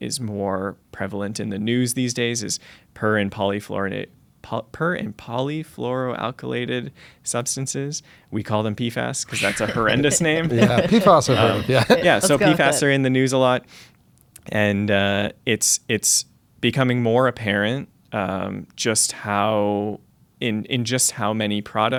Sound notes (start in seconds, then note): 9.3 laughter